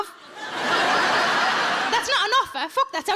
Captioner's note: audience laughs